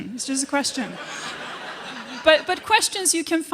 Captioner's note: laughter